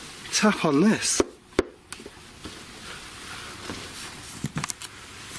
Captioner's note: tapping